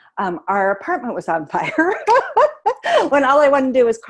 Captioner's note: laughing